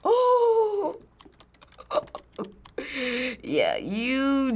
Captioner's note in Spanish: risas